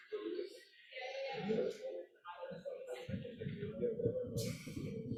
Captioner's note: people chattering